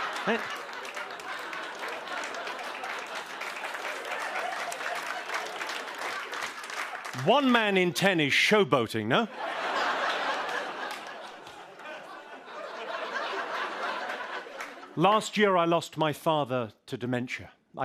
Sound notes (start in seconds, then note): 0.0 applause; 9.2 laughter